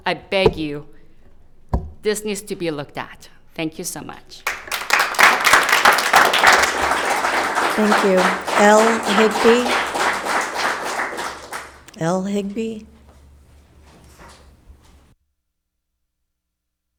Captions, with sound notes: I beg you, this needs to be looked at. Thank you so much. (spectator applauding) - Thank you. L Higby. L Higby.